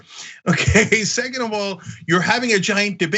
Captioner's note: laugh